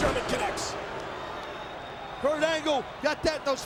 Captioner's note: audience cheering and booing